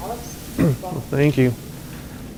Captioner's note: clears throat